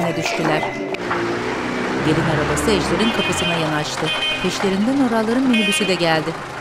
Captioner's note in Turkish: Araba sesi; Korna sesi